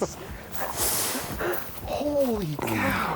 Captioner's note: plants rustling